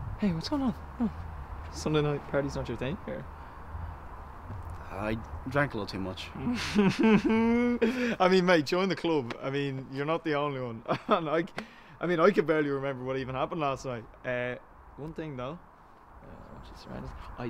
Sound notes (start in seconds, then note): 6.4 laughing